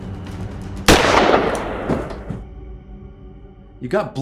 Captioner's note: gun fires